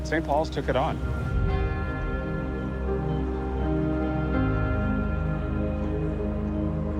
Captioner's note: soft music; bell tolling